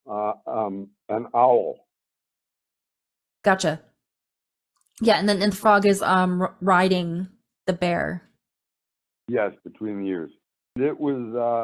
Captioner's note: audio cutting out